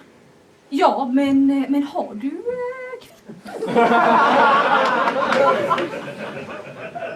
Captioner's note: laughter